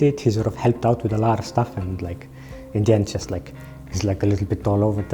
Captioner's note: none